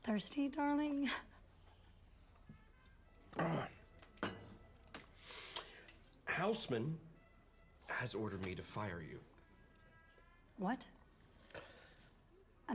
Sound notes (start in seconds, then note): 3.3 clears throat